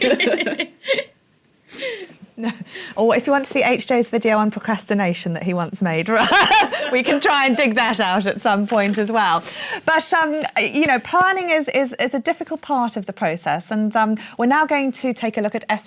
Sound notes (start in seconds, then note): 0.0 laughter; 6.2 laughs